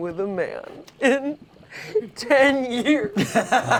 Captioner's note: sobbing; laughs